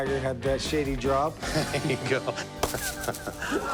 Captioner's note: laughs